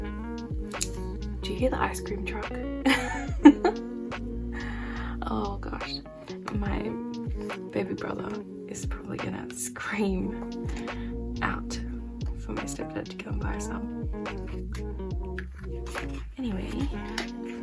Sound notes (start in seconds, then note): 2.8 laugh